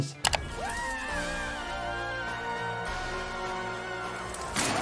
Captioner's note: screaming